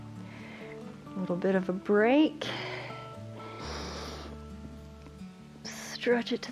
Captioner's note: inhales